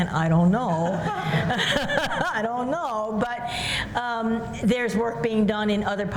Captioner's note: laughter